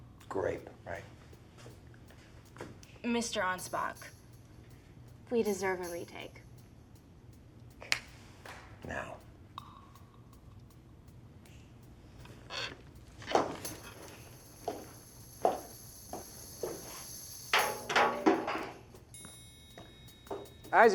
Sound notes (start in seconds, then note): 7.8 Aunspach snaps; 9.5 ticking music